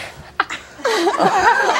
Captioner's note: laughing